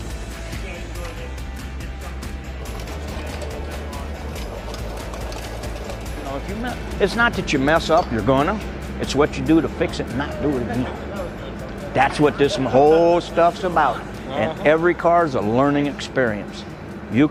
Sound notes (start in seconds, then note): 0.1 upbeat music continues; 10.6 laughs quietly